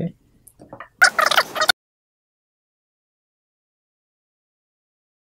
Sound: fast forward sound

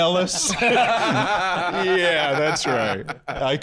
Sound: all laughing

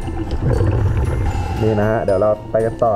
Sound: exhale

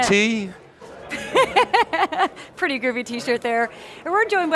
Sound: laughs

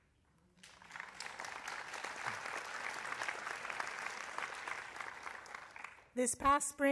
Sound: applause

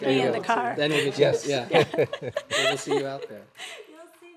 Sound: laughter

